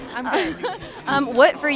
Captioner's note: laughing